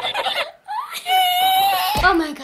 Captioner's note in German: Quietschendes Lachen